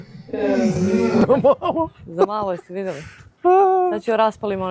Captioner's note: laughter